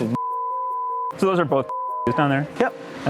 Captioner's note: beep